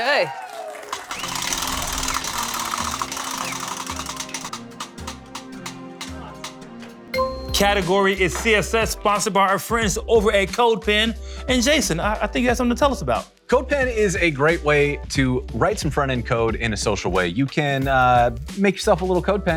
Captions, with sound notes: OK. [APPLAUSE] Category is CSS sponsored by our friends over at CodePen. And Jason, I think you got something to tell us about it. CodePen is a great way to write some front end code in a social way. You can make yourself a little CodePen,